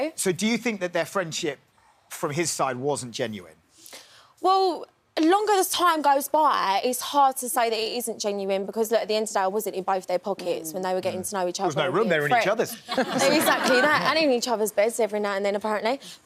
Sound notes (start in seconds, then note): 12.7 crowd laughs